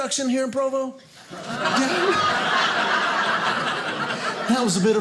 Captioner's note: audience laughing